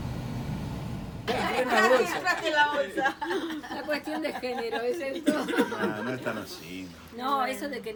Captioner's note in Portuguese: risos